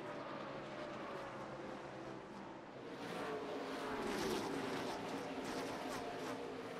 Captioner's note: cars racing